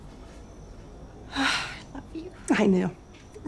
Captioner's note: sighs